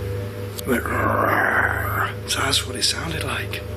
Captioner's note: growls